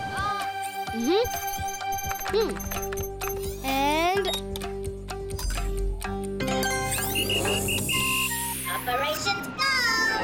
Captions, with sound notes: - Hm. And... (whistling) - Operations go!